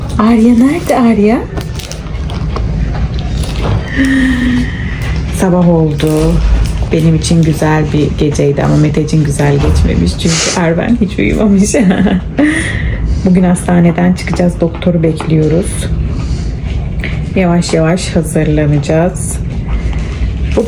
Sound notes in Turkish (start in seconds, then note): 11.6 kahkaha